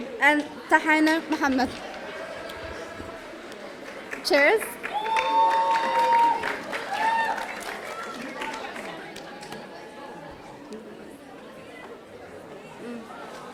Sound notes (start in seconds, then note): 4.7 audience cheering